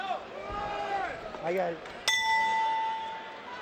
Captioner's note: bell rings